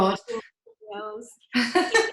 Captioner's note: laughter